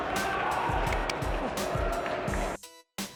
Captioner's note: clapping; techno music